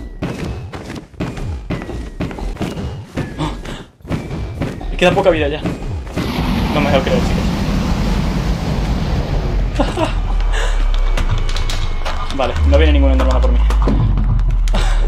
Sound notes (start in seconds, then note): 9.7 laughs